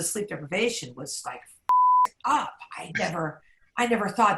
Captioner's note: beep